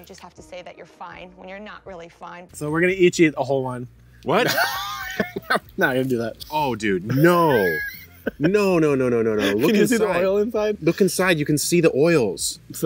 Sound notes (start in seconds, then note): 4.4 laughs; 7.4 laughs